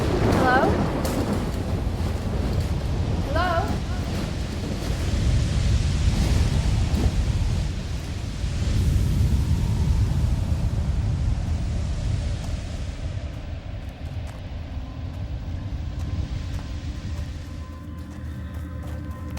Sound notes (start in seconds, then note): 4.4 wind gushing